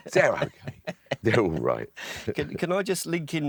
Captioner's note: laughing